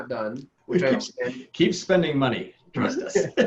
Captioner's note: laughing